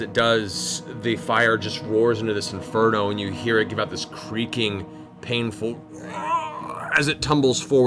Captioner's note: pained groan